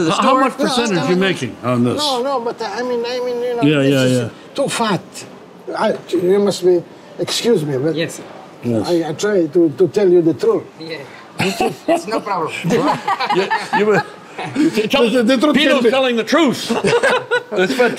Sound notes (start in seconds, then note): 10.0 laughs; 12.6 all laugh